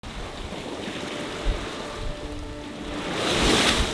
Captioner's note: waves crashing